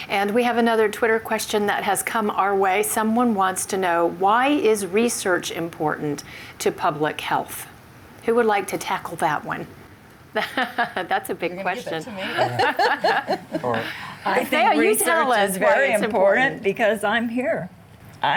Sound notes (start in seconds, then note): 10.3 chuckles; 12.1 laughs